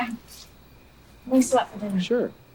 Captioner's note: insects chirping